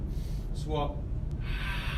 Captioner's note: exhales